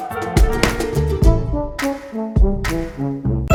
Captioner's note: playful music continues; bag thumping